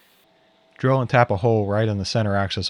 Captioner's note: drill whirring